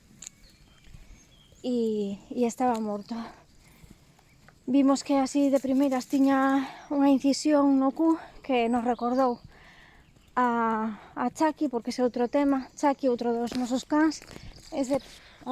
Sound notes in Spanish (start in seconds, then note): none